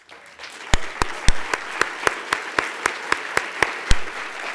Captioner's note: applause